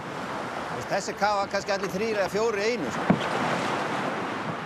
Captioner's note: Icelandic spoken audio